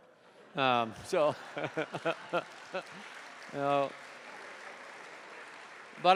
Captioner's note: laughter; laughs